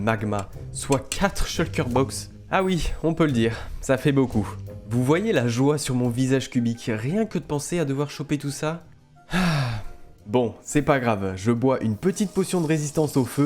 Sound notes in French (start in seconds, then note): 9.3 soupire